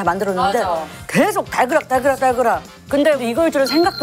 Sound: continuous kitchen sounds

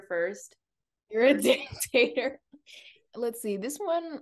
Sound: laughs

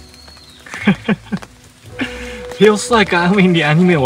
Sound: laughs

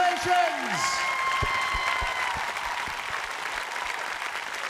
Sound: cheering

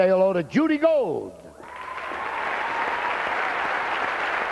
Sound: cheers

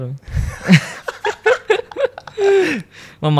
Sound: laughs

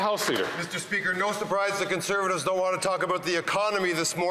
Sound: some Applause

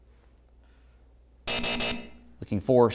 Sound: buzzing

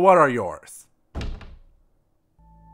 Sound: thud

